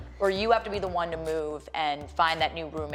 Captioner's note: none